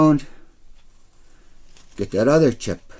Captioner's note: none